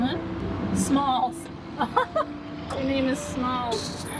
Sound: laughs

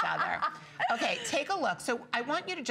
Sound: laughter

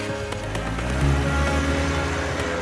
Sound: car receding

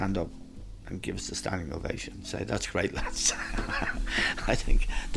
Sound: laughs

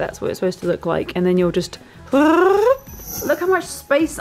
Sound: trills

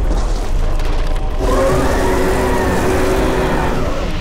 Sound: roaring

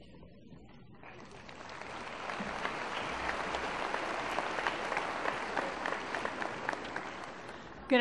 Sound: applause

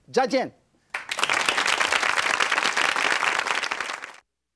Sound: audience applauding

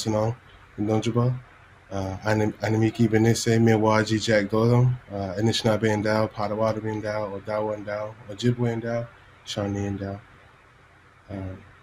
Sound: speaking non-english language

